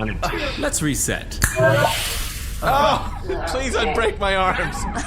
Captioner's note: snaps fingers; crying out in agony